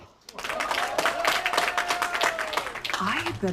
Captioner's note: crowd applauding